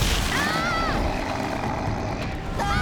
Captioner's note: screaming